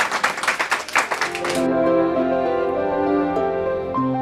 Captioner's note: applause